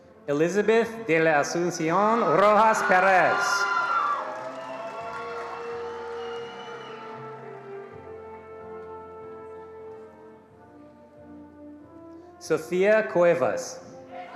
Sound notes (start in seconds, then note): 2.2 attendees applauding